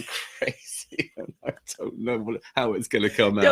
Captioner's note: laughing